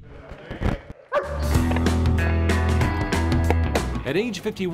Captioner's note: lucas barks